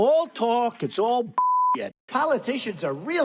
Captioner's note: beep